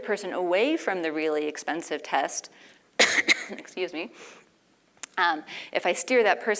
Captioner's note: cough